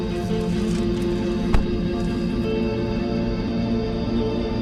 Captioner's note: vehicle door banging